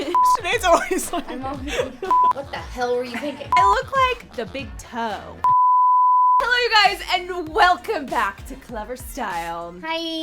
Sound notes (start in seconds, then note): 5.4 beep